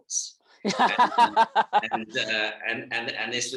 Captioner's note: laughs